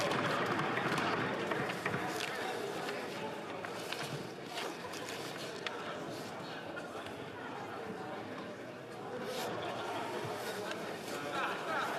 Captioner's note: applause